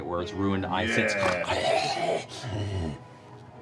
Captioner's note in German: Knurrt